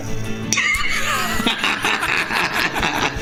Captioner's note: laughter